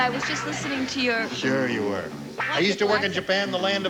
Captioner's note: normal voice